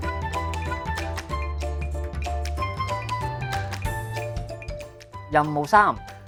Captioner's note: ticking sound